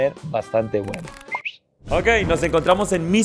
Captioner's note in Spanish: Chiflido confirmante